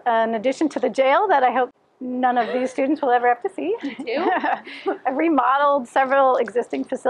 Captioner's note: laughter; laughs